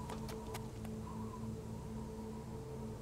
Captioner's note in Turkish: Rüzgâr sesi